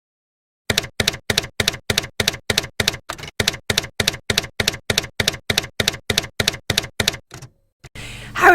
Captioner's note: typewriter keys clacking